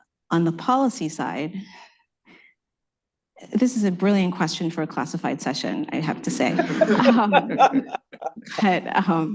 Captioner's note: laughter